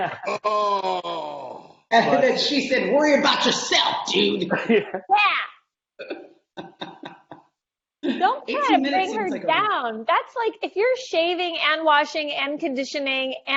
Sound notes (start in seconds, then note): 0.0 laughing; 4.0 laughing; 6.6 laughing